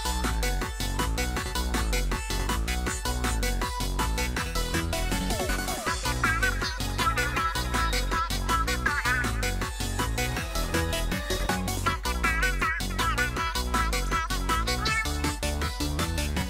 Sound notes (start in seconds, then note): 5.4 Happy Callie noises